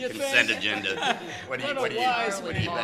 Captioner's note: laughs